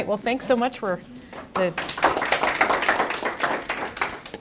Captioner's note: applause